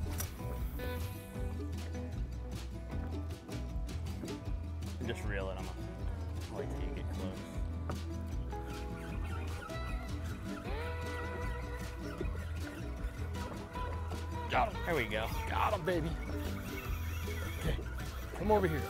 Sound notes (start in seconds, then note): 10.0 fishing pole reeling